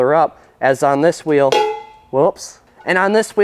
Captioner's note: wheels clang